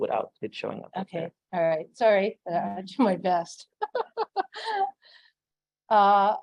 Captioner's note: laughs